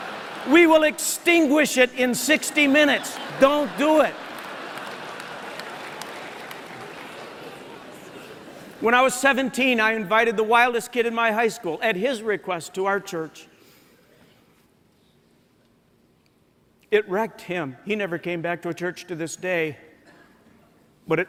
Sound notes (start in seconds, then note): 4.9 laughter